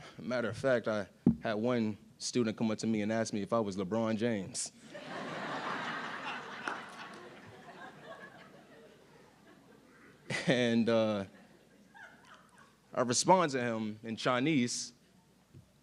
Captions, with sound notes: Matter of fact, I had one student come up to me and ask me if I was LeBron James. (audience laughing) And I responded to him in Chinese,